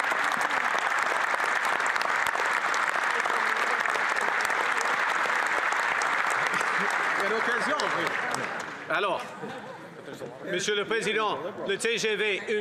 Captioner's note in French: applaudissements